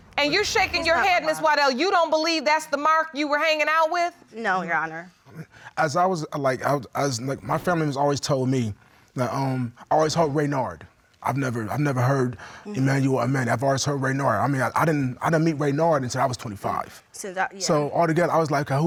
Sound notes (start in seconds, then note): 7.0 stammers